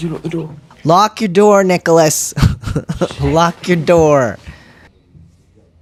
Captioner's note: laugh